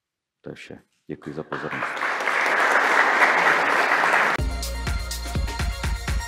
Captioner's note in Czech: Potlesk